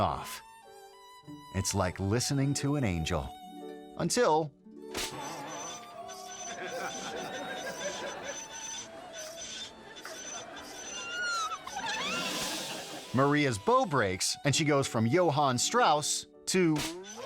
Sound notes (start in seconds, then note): 0.1 violin music; 5.3 strings springing; 7.0 audience laughing; 8.8 violin squelching; 17.0 violin squelching